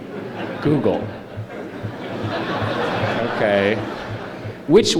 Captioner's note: laughter